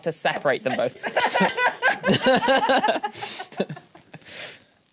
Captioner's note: laughing